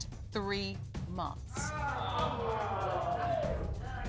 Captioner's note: audience exclaims